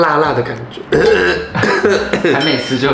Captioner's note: cough cough